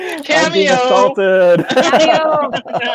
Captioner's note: laughing; laughing